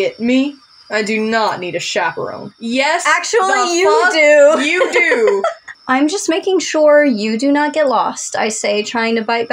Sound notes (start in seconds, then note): 3.5 laugh